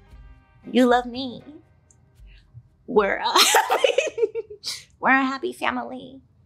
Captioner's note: laughs